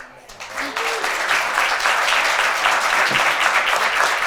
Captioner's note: attendees applaud